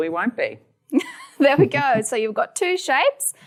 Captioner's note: laughs